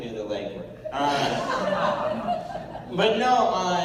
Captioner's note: laughter